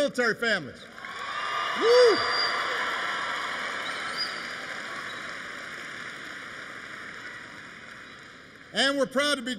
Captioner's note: applause